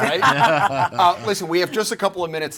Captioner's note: panel chuckling